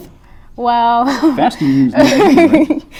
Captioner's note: giggles